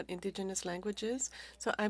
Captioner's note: speaking French